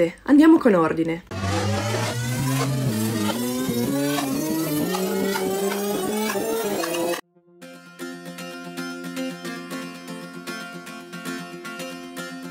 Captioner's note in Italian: rewind